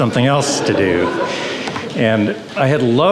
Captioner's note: audience chuckles